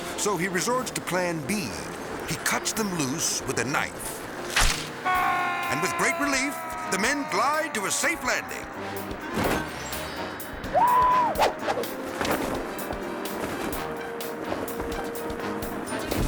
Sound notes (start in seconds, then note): 4.4 strap whips; 5.0 screaming; 9.1 parachute whips; 9.1 whimsical music; 10.6 people hooting; 12.7 whimsical music; 12.7 wind fluttering